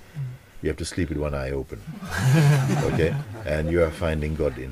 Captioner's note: laughter